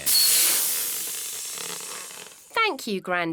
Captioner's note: air hissing